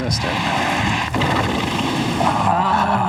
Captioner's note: horse neighs